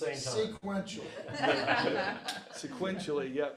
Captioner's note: audience laughs